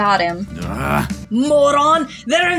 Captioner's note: Benjamin Grunts